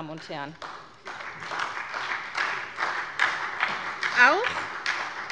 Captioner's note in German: Beifall bei der SPD